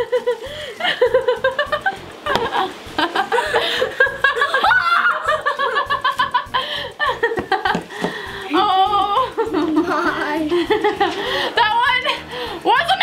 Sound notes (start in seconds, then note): 0.0 laughing; 4.5 yelping; 6.7 laughing